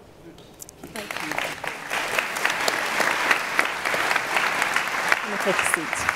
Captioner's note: applause